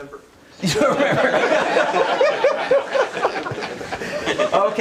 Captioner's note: laughter